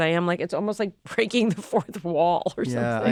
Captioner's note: chuckles